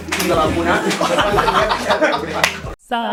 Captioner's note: laughs